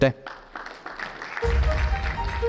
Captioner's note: audience applauding